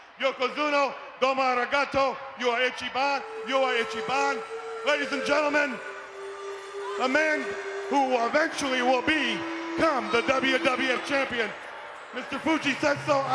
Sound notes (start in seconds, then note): 2.2 Heenan speaking foreign language